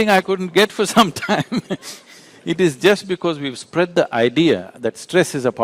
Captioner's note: laughs